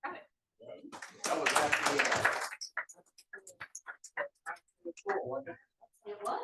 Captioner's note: attendees applauding